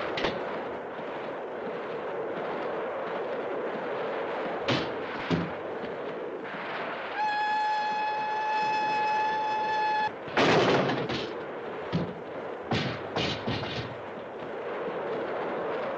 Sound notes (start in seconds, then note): 7.1 train whistle blows